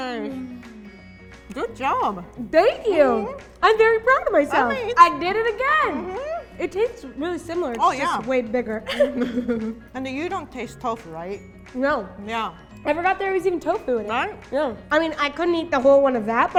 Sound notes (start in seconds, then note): 0.2 soft music; 8.8 both chuckle